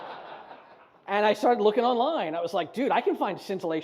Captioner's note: audience laughs